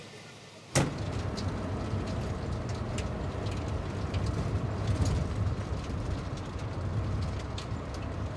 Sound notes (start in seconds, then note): 0.7 door slams; 0.7 truck engine roars